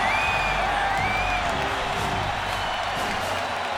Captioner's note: audience cheers